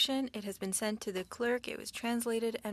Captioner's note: speaking French